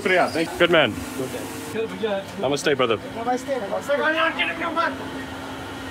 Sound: speaking in foreign language

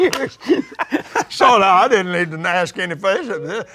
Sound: laughs

